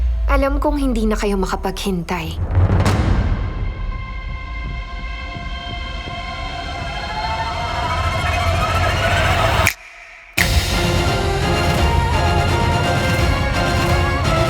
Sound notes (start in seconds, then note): 2.6 tense music playing; 9.6 snaps fingers; 10.9 dramatic music playing